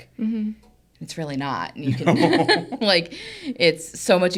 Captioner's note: laughs